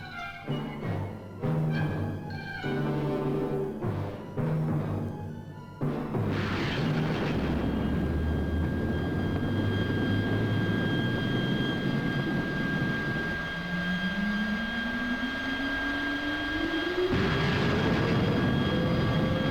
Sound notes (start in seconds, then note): 6.2 rockets boom; 8.2 spaceship whining; 17.1 rockets boom